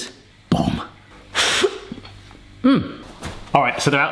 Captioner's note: blows out